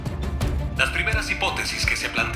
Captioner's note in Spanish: Voz en la TV